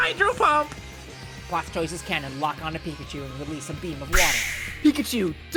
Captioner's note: sploosh sounds